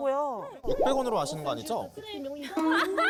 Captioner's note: suspicious sound effect